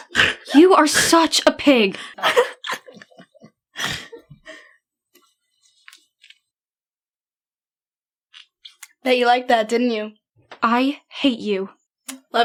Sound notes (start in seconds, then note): 0.0 laughs obnoxiously; 2.1 still laughing